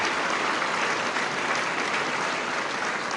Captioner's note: applause